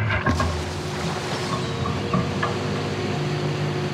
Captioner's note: water splashing